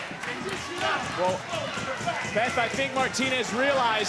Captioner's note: foreign language